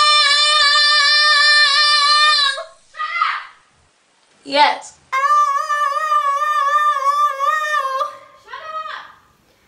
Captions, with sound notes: [Singing laudly] [Shouts in background] Shut up! Yes. [Singing laudly] [Shouts in background] Shut up!